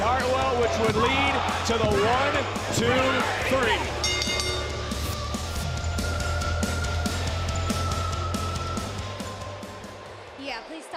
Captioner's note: bell